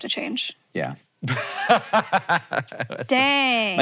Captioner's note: laughing